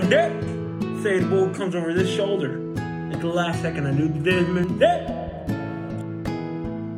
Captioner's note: echoes